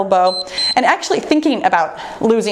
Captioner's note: timer beeps